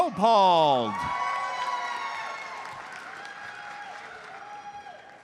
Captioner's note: audience cheers and applauds